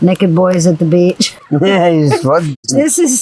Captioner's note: laughs